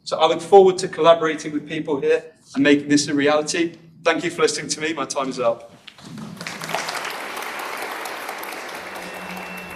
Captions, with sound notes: So, I look forward to collaborating with people here and making this a reality. Thank you for listening to me. My time is up. [Applause]